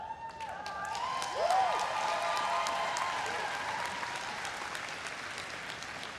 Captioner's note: everyone cheering and applauding